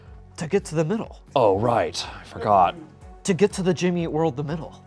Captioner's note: none